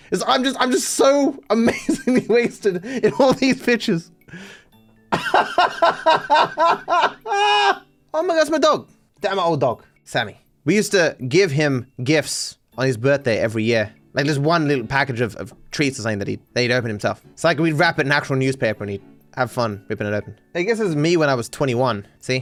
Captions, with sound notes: I'm just so amazingly wasted in all these pictures. [Laughing] Oh my god that’s my dog! That's my old dog, Sammy. We used to give him gifts on his birthday every year, like this one little package of treats or something that he'd open himself So like we wrap it in actual newspaper and he, have fun ripping it open. I guess this is me when I was 21.